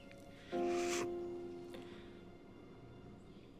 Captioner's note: sniffles